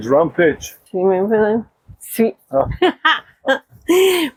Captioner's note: laughter